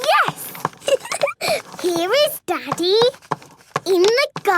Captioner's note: giggling